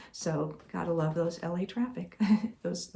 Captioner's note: chuckling